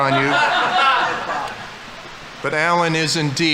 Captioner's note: audience laughing